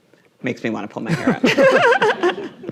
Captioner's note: laughing; audience laughing